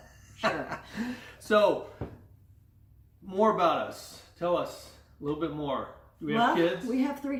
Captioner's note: laughs